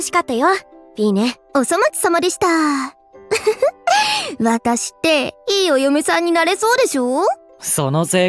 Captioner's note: chuckle